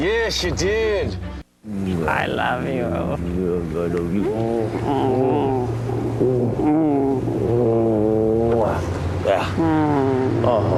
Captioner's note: make out noises